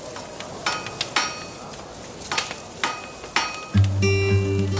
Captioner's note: hammer clinking; relaxing music